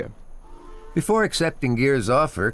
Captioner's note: train horn blows